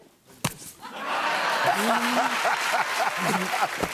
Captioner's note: laughs